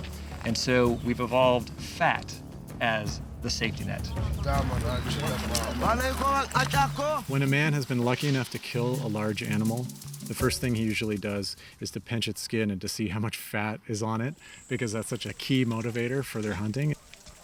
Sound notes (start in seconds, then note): 4.2 speaking local language